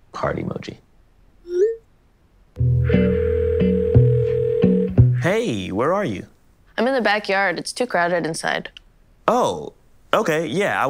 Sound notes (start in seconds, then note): 2.6 carefree instrumental music; 3.0 phone ringing